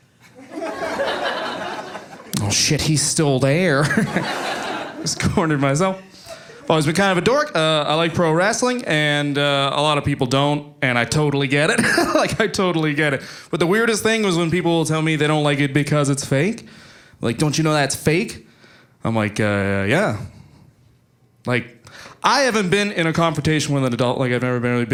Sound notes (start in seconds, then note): 5.9 audience laughing